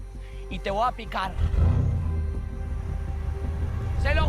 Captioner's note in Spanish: Ruido del vehículo